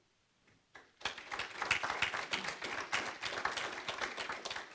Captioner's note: audience applauds